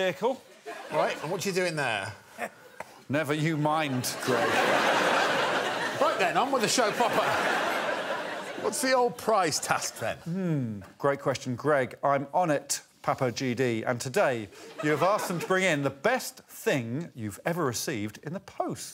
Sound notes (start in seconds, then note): 3.8 crowd laughs